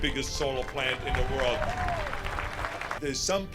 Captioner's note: crowd clapping and cheering